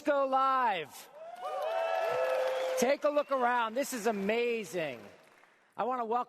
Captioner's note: cheers and applause